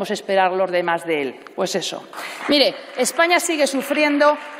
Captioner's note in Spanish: Aplausos